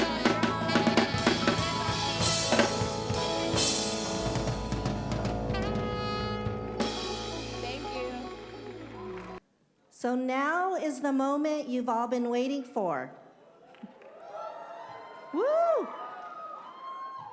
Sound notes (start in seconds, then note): 13.7 cheers